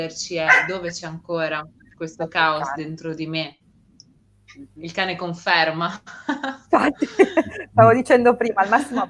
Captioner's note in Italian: risate